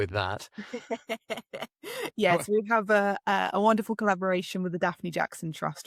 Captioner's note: laughs